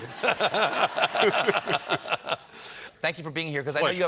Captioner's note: laughter